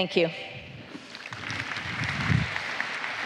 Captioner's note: applause